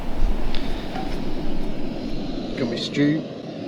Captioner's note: gas Stove sound